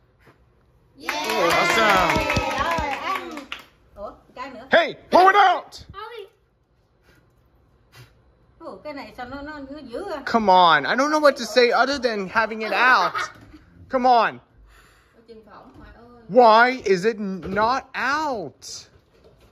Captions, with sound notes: -Awesome! -[all cheering] [yelling] Hey, blow it out! Come on, I don't know what to say other than having it out. Come on! Why is it not out?!